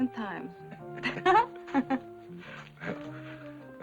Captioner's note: both laughing